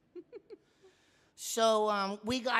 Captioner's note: laughing